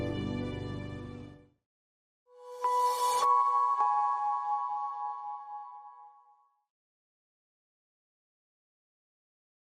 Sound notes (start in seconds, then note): 2.4 logo chiming